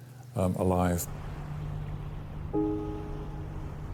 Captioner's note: water splashing; somber instrumental music; water splashing